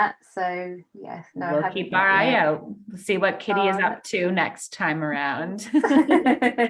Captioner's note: laugh